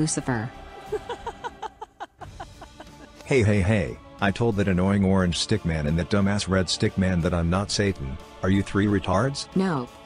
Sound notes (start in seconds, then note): 0.8 laughs